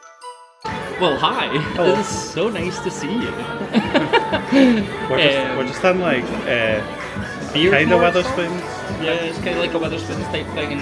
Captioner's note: laughs